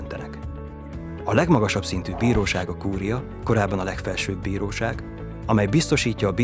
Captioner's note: swishing sound